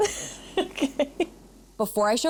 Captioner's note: laughs